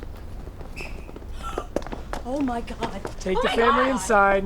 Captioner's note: gasps